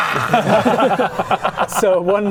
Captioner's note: pitying laughter